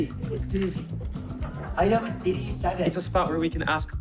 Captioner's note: captains laughing